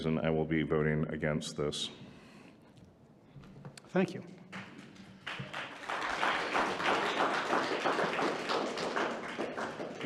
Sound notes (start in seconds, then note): 4.5 audience applauding